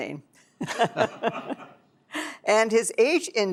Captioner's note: laughter